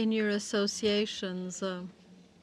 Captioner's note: speaking French